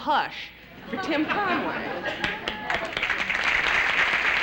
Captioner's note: applause